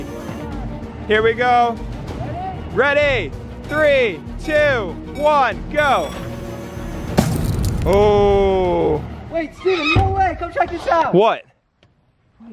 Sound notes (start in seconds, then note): 5.9 machine whirring; 7.1 thuds